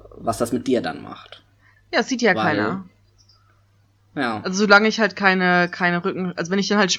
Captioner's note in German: ironie